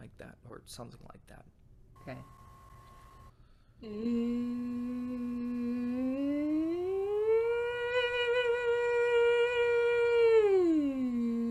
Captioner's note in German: summend